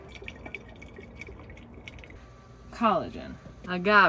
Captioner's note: liquid pattering